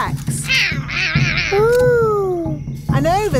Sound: roaring

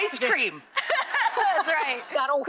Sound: all laugh

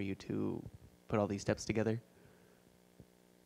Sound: none

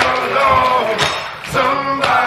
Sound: applause; cheers

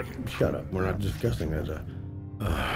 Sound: sighs

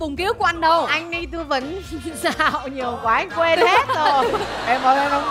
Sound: laughing

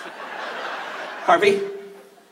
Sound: laughs; audience laughs

